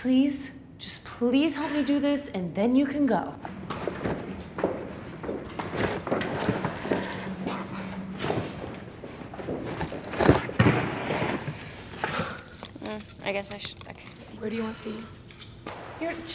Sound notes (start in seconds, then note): 3.4 footsteps thunking; 12.0 Ashley sighs